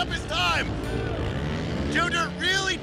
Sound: engines revving

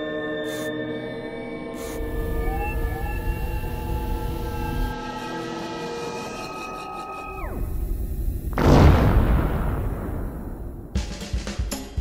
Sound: cheer and scream

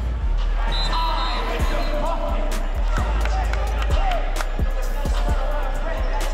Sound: ref blows whistle; hype-inciting music

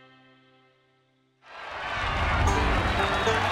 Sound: crowd cheering; banjo music

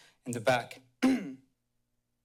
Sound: clears throat

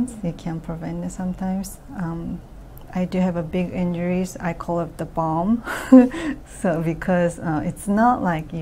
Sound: laughs

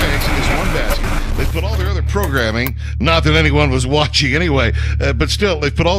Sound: the static clears

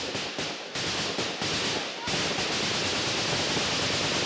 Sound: guns firing

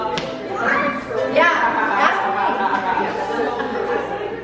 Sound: shouting

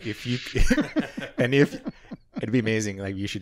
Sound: laughing

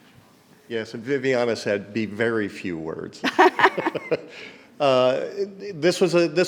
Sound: laughs

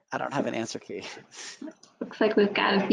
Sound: chuckles; laughing

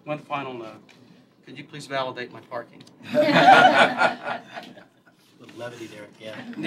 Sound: laughter

